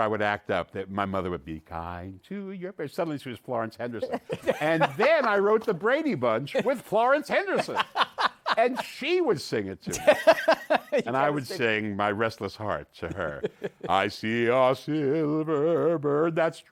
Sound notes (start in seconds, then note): 4.0 laughter; 7.5 laughs